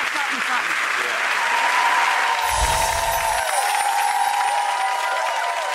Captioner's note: audience clapping